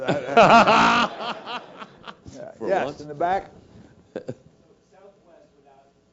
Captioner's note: laugh